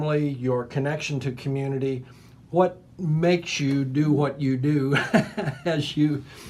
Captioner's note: laughing